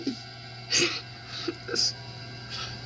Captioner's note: cries